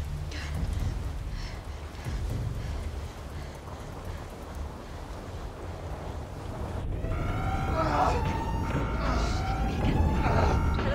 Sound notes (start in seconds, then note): 6.9 siren blaring